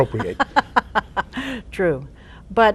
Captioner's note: laughing